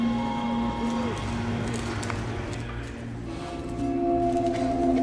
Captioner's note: walking stick rattling